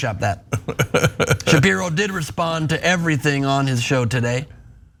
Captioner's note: laugh